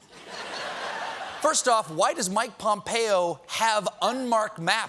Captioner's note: laughter